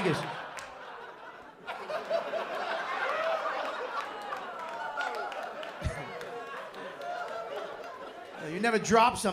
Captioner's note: laughter